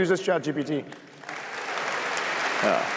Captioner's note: applause